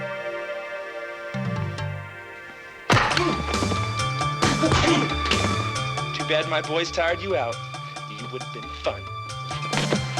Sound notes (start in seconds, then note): 2.9 kick thudding; 4.4 punches thudding; 4.5 Toshi grunting